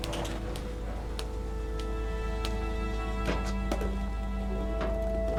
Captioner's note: cane tapping